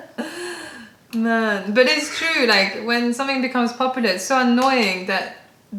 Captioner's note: laughter